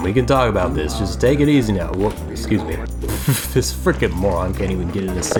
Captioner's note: laughs